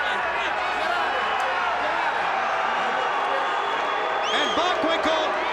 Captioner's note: crowd chattering